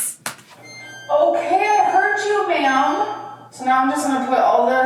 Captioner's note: timer beeping